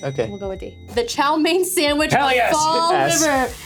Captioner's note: speaking faintly